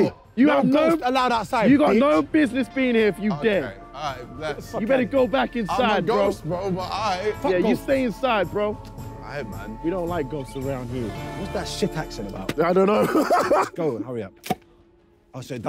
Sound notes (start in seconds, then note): 12.8 laughing